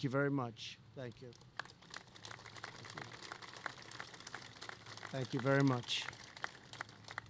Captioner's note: applause